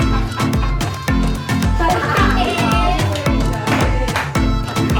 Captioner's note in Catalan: riures; castellà